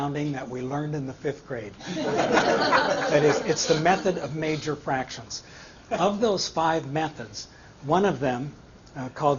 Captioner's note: laughter